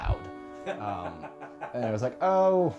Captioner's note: Rick laughs